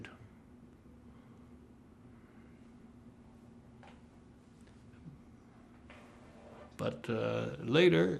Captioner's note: pauses 6 seconds